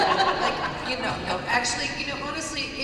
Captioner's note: laughter